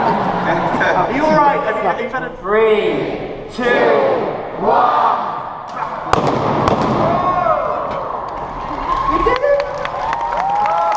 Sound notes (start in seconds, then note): 6.0 explosion